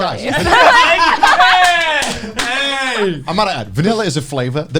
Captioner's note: both laughing